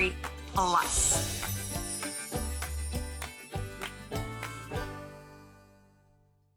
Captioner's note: wind chimes twinkling